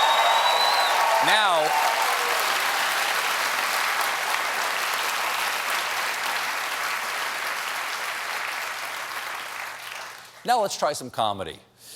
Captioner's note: cheers and applause